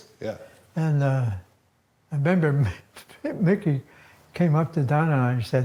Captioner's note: chuckles